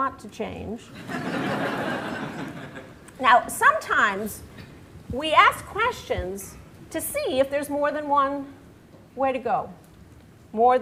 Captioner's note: laughter